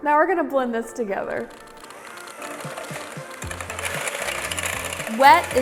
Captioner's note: mixer whirring